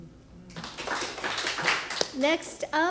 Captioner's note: applause